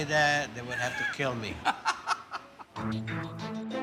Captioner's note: laughs